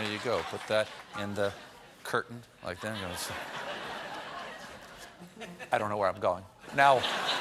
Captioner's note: laughter